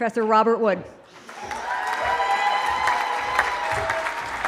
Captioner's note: cheering